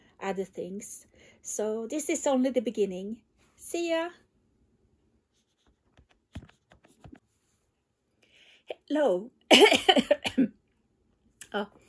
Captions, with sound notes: other things so this is only the beginning. See you Hello (cough)